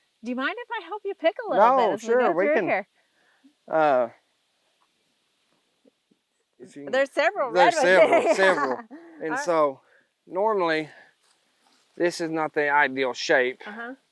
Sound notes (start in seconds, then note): 7.6 laughing